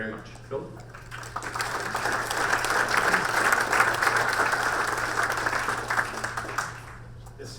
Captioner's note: audience applaud